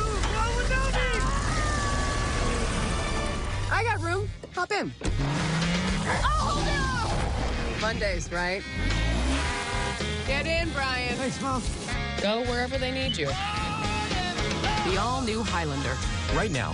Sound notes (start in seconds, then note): 8.6 horn honks